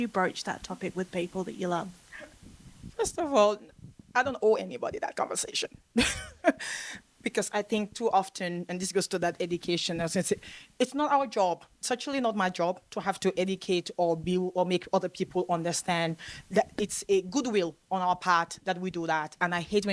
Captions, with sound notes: And how did you broach that topic with people that you love? First of all, I don't owe anybody that conversation, (SCOFFS) because I think too often, and this goes to that education in the sense that it's not our job. It's actually not my job to have to educate or be or make other people understand that it's a goodwill on our part that we do that,